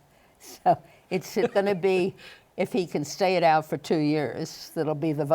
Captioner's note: laughs